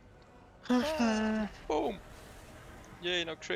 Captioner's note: haha